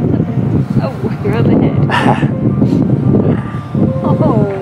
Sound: laughs

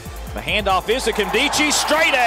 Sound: voiceover

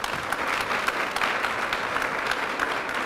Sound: applause

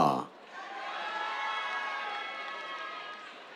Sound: cheers

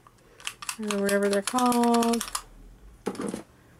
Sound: clackclackclack; clackclackclackclackclack

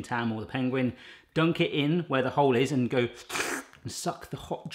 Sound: slurps

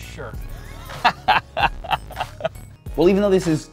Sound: laughs

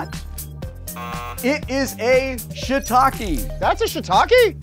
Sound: buzzer buzzing

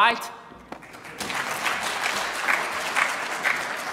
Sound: applauding

